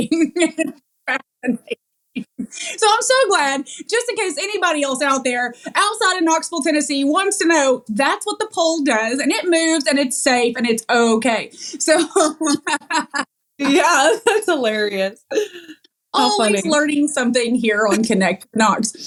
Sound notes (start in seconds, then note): 11.9 laugh